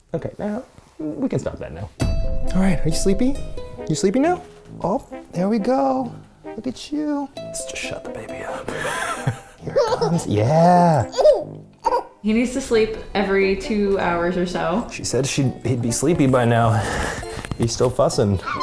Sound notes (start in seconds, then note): 8.6 laughs; 8.6 giggles